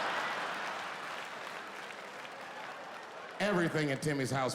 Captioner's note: audience clapping